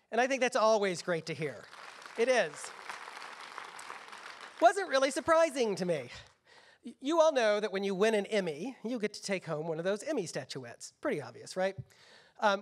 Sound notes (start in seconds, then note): 1.4 applause